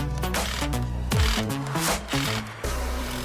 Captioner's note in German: Stotterndes Rattern